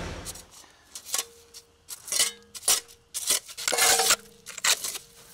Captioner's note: shovel scraping